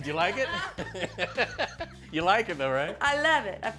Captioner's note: all laughing